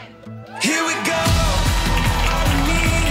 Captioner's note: crowd cheering